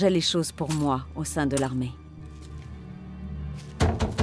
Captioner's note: coins clinking; fist thuds